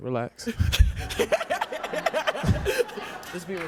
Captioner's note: laughing